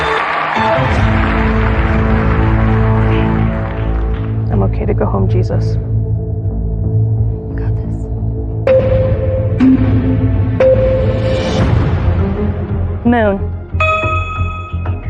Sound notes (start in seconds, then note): 0.2 dramatic music climaxes; 2.4 quietly